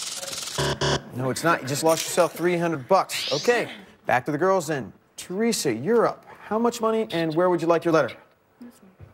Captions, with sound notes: Is it EMBLEM? [buzzer] No, it's not. You just lost yourself 300 bucks. Okay, back to the girls then. Theresa, you're up.